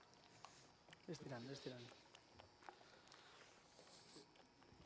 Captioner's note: non-english speech